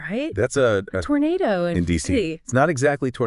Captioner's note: audio glitches